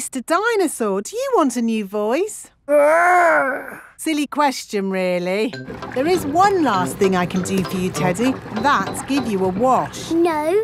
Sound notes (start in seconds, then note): none